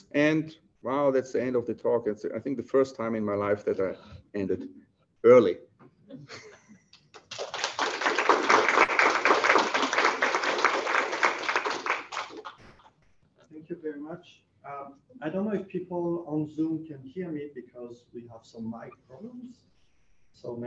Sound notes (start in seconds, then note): 6.1 laughter; 7.1 applause